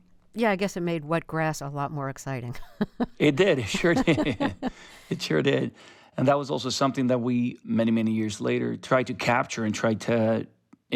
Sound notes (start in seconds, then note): 2.5 laughter